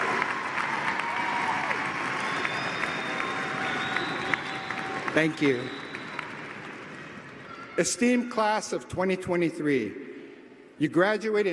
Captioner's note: applause